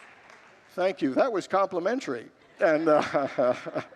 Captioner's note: congregants laugh